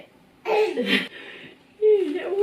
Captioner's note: baby babbling